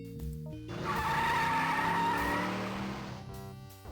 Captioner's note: screeching tyres